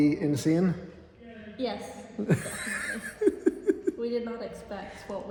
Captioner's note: laughs